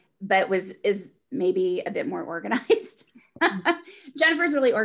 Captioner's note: laughs